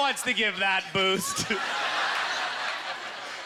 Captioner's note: audience laughter